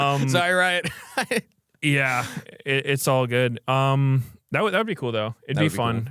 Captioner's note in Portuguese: risos